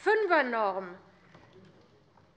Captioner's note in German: none